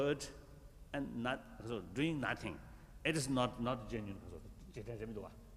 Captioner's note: foreign words